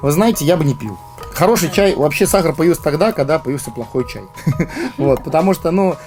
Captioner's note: laughter